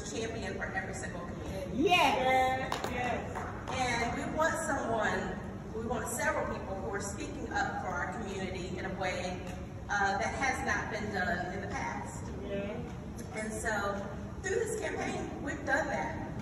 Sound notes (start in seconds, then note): 2.7 applause